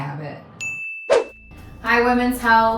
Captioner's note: bell ringing